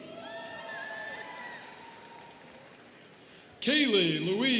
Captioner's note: students cheering